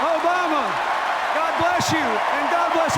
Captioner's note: cheers, applause